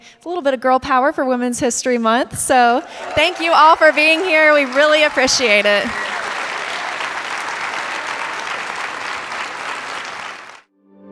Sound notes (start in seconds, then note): 5.7 audience cheering and clapping